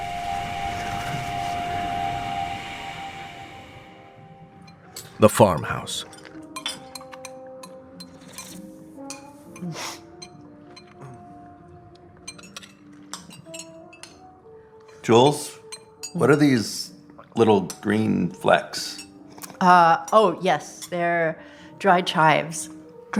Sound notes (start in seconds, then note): 0.0 dissonant hum; 6.4 light jazz music; 8.0 slurping and chewing; 12.2 cutlery clinking